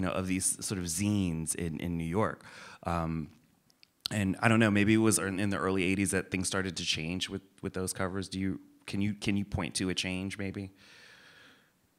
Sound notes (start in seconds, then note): none